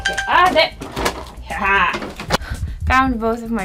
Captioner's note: phone ringing; cackling